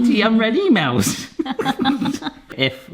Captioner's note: giggles